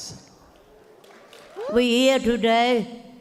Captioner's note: audience applauds